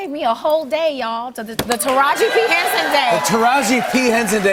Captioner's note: cheers and applause